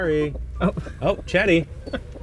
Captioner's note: laughing